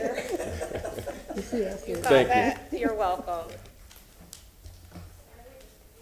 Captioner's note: laughter